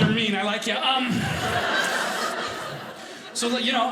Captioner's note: audience laughing